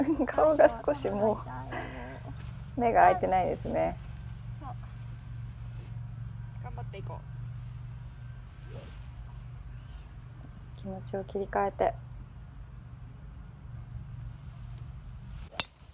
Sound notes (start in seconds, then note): 1.5 laugh